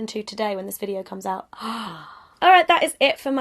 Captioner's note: gasps